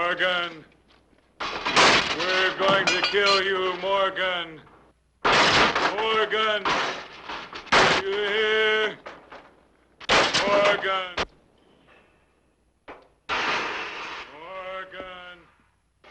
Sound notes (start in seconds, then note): 13.2 objects clattering